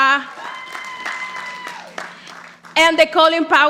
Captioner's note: audience applauding